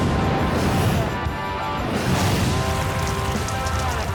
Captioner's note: explosions